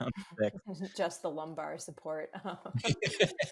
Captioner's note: laughs